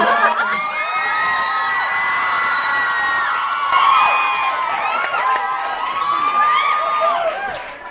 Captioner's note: audience cheers; audience screams and cheers